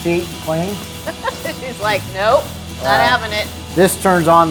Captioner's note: laughing